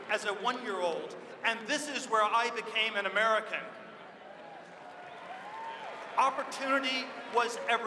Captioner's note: applause